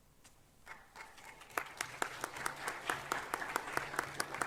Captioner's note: audience applauding